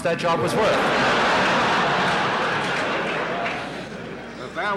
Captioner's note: laughter in the courtroom